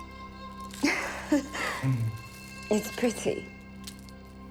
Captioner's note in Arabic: آنا ضحكة مكتومة